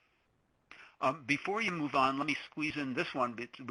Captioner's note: voiceover